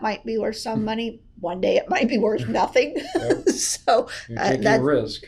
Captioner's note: laughs